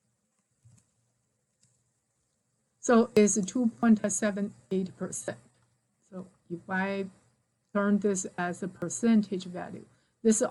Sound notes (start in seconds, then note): 1.5 mouse clickings